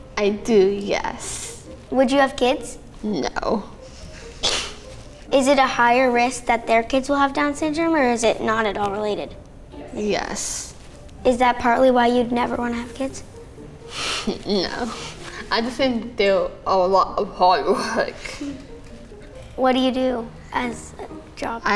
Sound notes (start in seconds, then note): 3.3 laughs